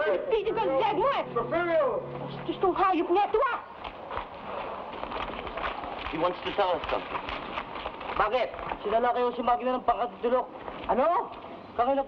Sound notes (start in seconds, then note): 2.6 woman shouts in Tagalog; 8.3 man speaking in Tagalog